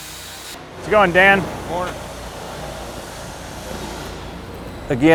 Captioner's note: background talking